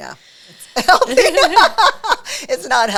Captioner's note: both laughing